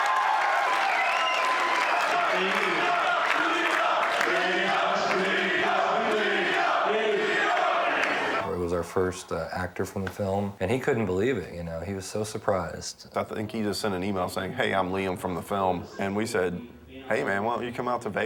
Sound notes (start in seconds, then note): 4.4 chanting